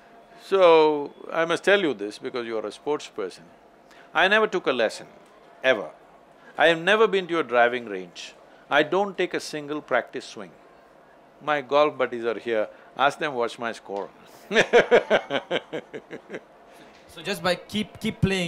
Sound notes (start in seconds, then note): 14.5 laughs